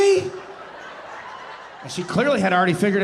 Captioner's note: audience laughing